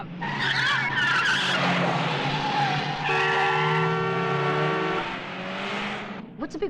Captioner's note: wheels screeching; car horn honking